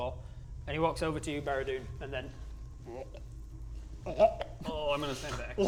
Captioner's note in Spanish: bleurgh